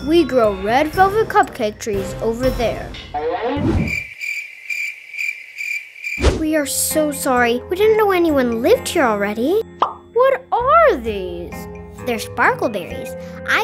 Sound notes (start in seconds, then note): 3.8 crickets chirping; 10.0 popping